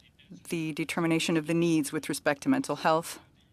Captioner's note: speaking French